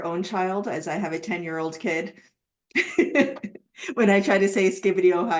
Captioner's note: laughs